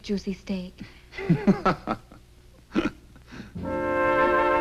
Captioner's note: Edward laughs; soft orchestral music